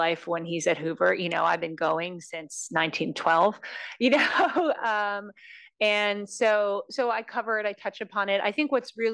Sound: laugh

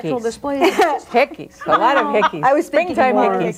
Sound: group laughs

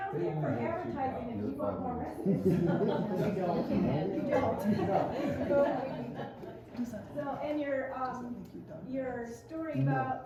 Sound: laughter

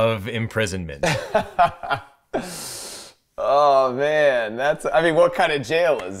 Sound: laughs

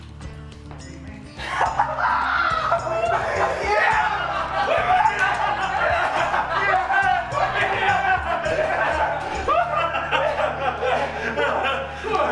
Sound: laughter

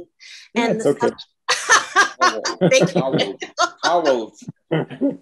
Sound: laughing

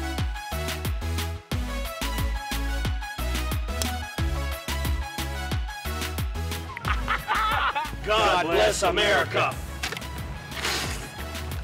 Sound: laughs

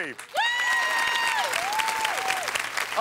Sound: cheers and applause

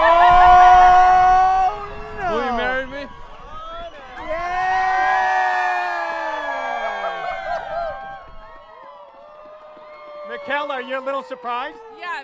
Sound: applause

